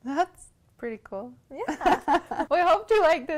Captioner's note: laughs